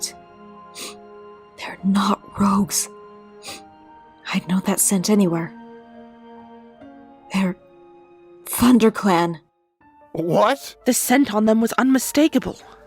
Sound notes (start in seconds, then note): 3.4 sniff